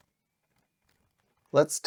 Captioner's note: typing